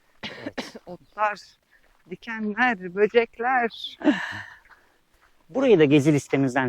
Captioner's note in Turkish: homurdanır